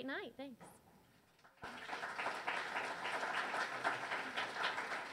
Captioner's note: audience cheers